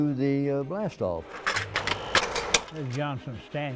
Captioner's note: slides clicking